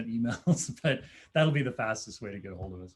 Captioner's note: laughter